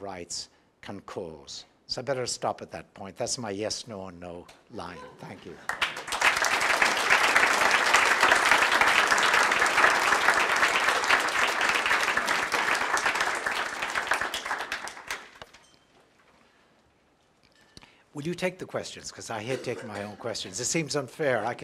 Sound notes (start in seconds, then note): 9.8 audience applauds; 10.3 applause